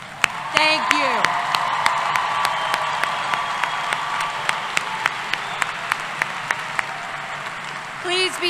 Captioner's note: applause and Cheering